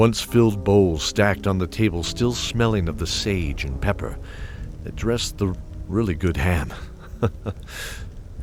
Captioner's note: chuckle